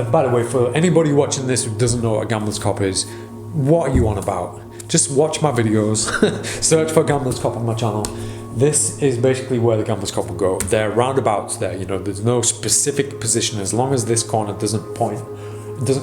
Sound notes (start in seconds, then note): 5.8 laughing